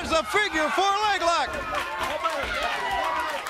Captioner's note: crowd cheering